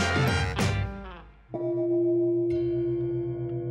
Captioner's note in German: Gong